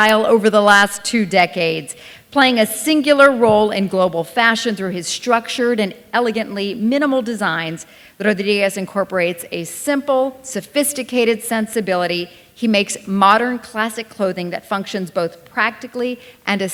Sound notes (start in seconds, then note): none